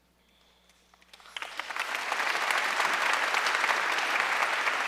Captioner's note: audience applauding